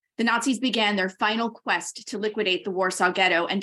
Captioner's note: none